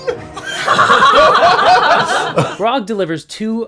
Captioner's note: laughter